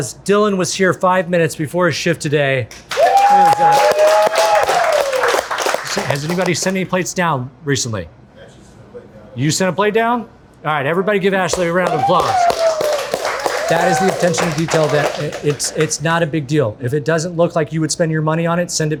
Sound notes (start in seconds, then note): 2.7 crew applauding; 2.9 crew cheering; 11.5 crew applauding; 11.6 crew cheering